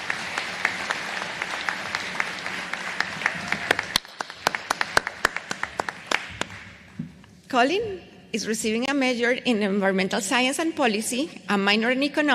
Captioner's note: applause